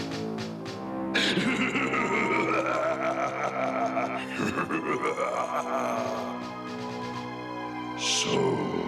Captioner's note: evil laughter